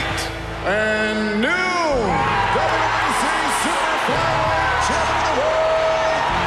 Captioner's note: cheering